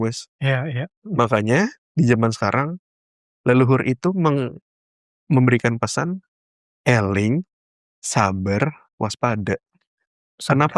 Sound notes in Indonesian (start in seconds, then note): none